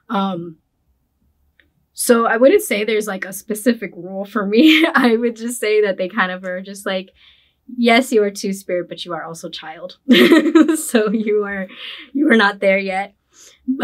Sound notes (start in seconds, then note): 10.3 laughs